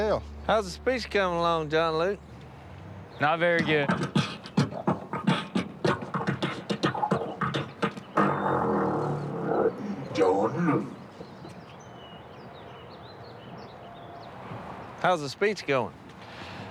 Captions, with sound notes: How's the speech coming along, John Luke? Not very good. [beatboxes] John Luke. How's the speech going?